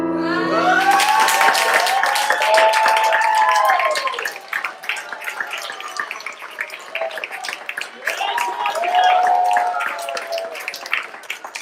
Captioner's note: applause